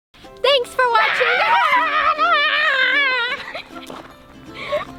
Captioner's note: laughs